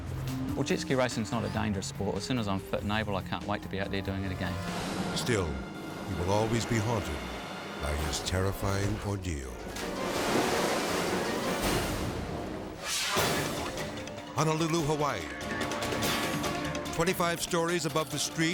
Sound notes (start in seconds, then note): 9.6 water splashes; 9.7 intense music; 12.2 screen whooshes